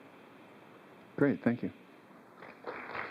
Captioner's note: applause